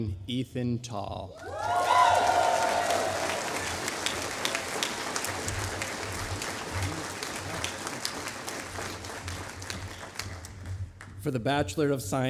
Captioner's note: applause